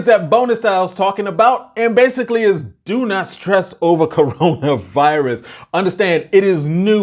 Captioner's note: laughs